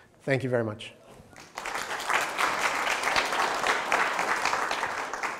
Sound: clapping

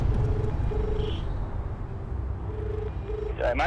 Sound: phone rings

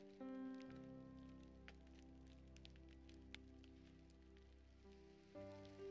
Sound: calm piano music; rain falling

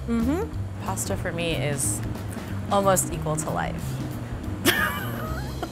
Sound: laughing; upbeat music

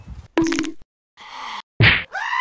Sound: pain nosies; goat Scream

